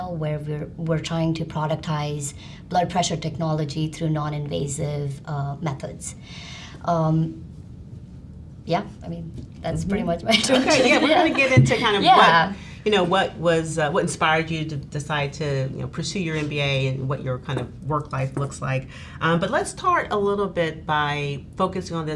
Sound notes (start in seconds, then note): 10.3 laughs